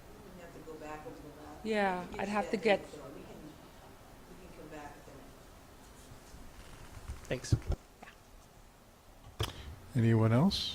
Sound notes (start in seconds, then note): 3.6 woman speaking off mike